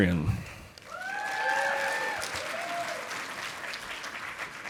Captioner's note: audience applauding